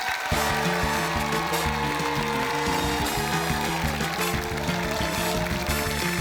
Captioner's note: cheering, applause